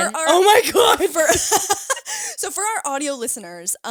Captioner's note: all laughing